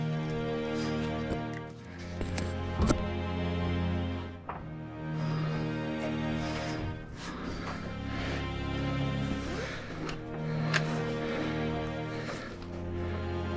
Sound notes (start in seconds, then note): 4.5 heavy breathing; 4.5 shuffling